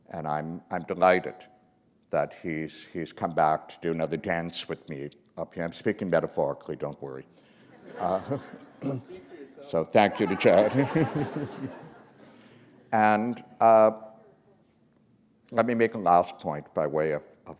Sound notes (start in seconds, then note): 7.7 laughter